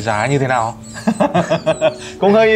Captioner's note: laughing